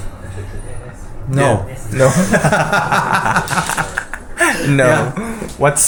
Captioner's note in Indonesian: tertawa